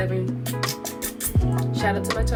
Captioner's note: makes kissing sounds